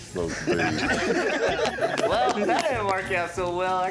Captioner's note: laughter